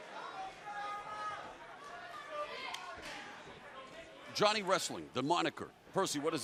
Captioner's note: crowd cheering